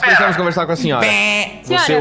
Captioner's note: bell sound